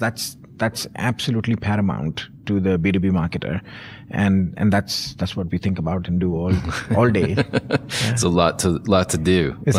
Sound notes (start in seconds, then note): 6.5 chuckling